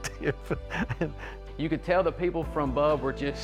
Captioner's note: laughs